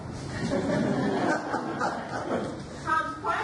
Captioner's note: audience laughs